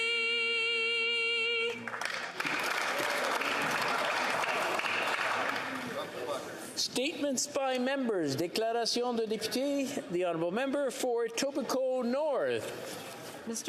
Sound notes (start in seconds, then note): 4.8 applause